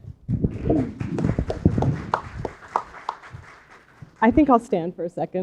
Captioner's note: applause